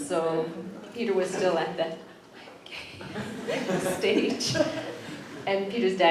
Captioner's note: whispered